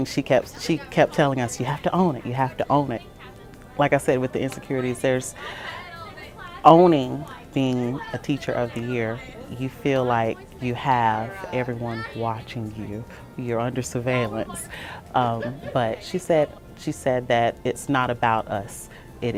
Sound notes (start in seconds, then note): 14.5 chatter